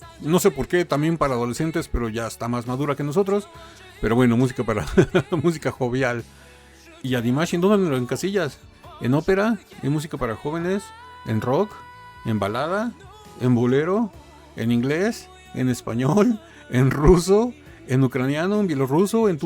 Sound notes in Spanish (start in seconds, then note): 4.7 risas